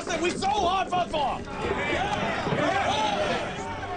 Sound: men cheering

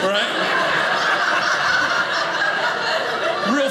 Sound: audience laughing

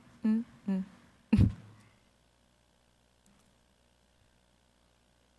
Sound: chuckling

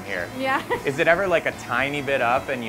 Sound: laughing

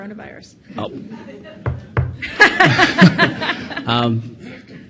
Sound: all laughing

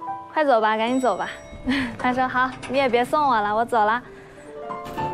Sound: sample 3: The sound of the elevator

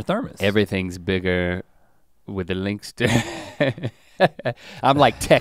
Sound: chuckles

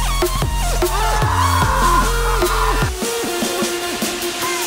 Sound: screams

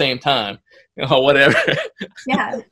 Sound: laughs

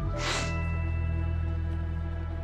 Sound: inhales sharply as he "channels" the spirit of the victim

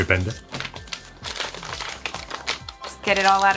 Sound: paper rustling

